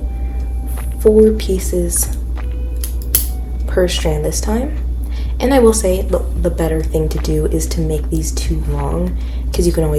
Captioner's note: scissors cut